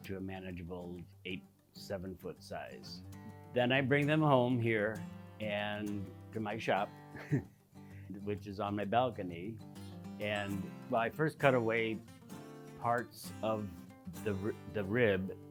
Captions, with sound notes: to a manageable eight, seven foot size. Then I bring them home, here, to my shop. (laughing) Which is on my balcony. And my first cut-away hearts of the rib